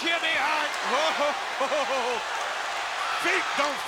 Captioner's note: Bobby laughing